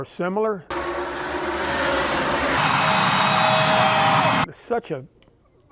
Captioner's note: car engines roaring and crowd cheering